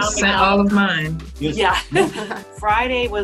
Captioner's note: chuckles